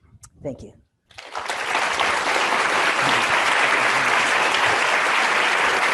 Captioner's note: students applauding